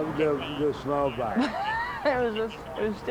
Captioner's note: laughs